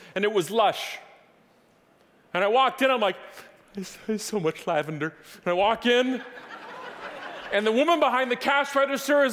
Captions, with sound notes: and it was Lush and I walked in I'm like, it's so much lavender. (audience laughing) And I walk in and the women behind the cash register